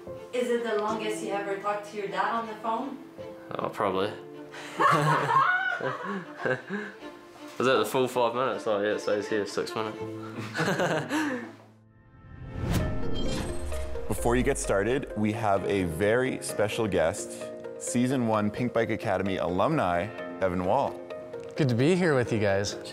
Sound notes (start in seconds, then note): 4.6 all laughing; 10.3 laughing